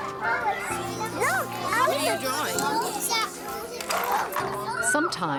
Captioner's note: classroom chatter